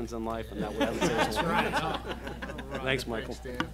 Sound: laughing

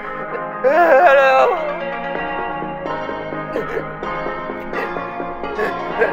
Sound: gasps

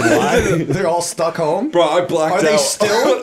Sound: chuckle

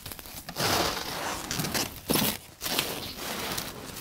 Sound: squeaking

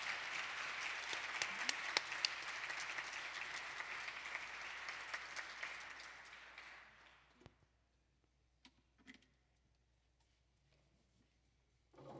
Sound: applause

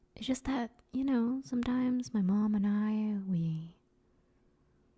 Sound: none

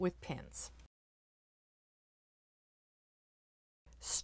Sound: no Sound Present

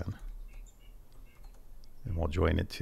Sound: keyboard chattering

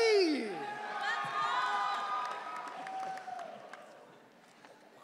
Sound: audience cheering

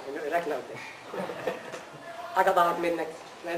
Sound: sound of laughter

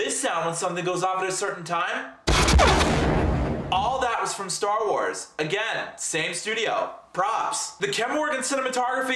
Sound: boom!

